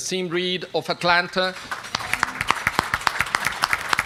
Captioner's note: applause